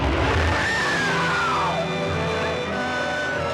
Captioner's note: screaming